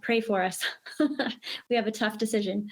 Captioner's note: laughs